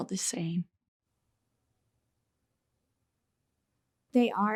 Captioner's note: silence